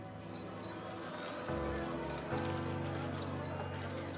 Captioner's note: cameras clicking